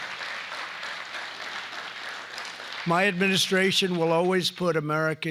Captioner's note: applause